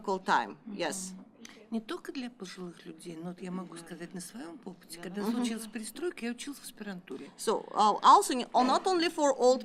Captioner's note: speaking russian